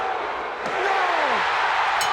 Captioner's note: crowd cheering